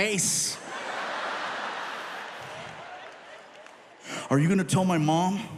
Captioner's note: audience laughing